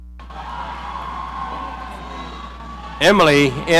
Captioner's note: audience cheering